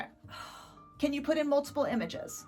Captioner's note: Post sighs deeply